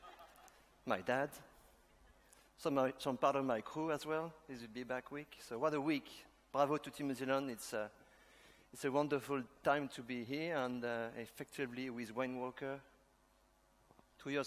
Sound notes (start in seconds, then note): 0.0 laughter; 7.1 speaks in a foreign language